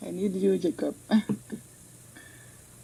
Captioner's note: speaks in French